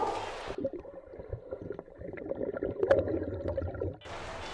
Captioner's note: water bubbling